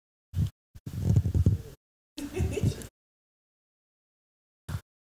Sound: audio out

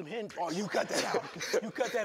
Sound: chuckling

